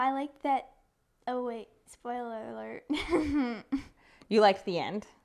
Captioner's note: laughing